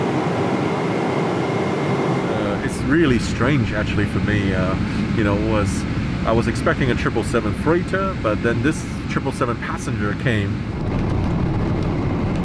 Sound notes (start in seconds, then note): none